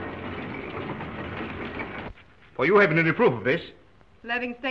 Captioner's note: printing press whirring